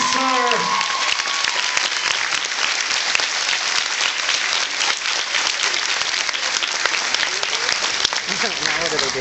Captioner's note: cheers and applauds